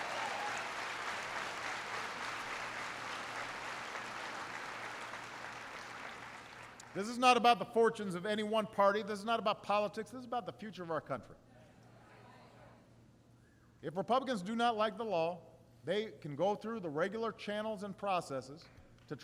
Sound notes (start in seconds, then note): 2.6 applause